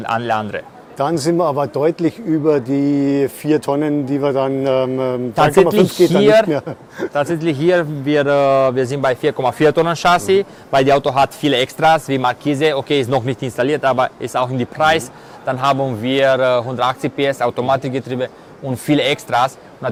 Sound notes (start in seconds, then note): 5.9 laughter